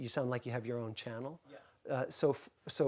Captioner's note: voiceover